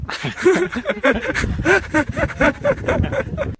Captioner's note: wild laughter